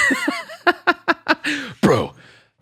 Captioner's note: laughs